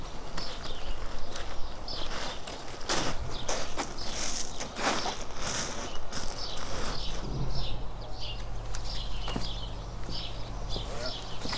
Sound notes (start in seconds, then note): 2.1 birdsong